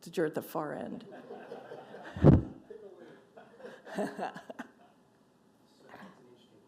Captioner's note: laughter